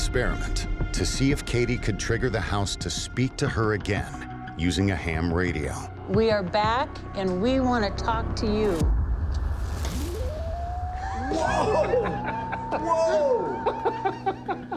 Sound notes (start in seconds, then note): 8.8 electronic whirring; 11.1 laughs; 13.0 laughter